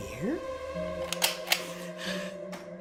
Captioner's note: Viewmaster clicks